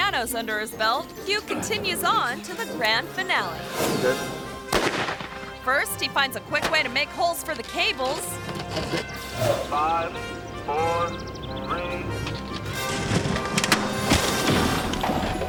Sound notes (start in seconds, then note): 4.6 gun blasts; 12.3 uplifting music